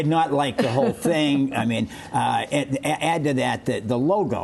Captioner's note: laughter